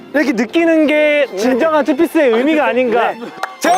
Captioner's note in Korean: Ханиалгах